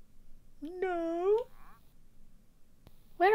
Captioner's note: high-pitch voice